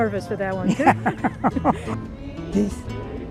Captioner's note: laughing